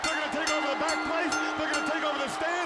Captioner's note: bell ringing